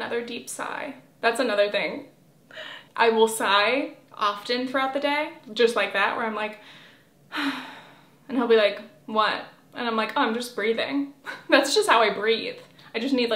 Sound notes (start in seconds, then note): 7.3 sigh